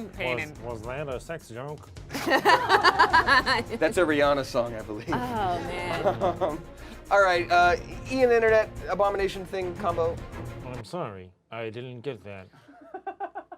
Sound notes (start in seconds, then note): 2.1 group laughs